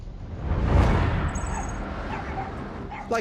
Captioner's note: dog yapping